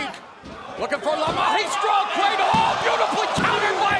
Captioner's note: speaks Spanish